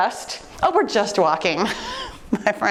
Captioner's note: laughing